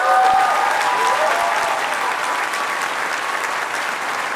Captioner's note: cheers, applause